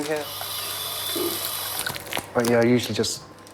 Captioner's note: sound of water running